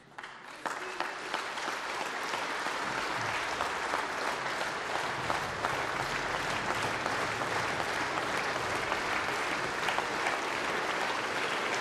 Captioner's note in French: Applaudissements